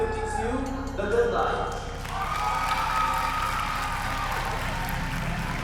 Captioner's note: applause and cheering